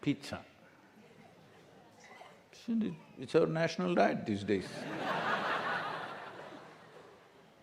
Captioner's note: laughter